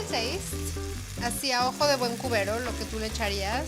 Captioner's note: speaking Spanish